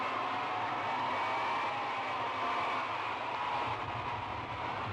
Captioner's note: crowd cheers and shouts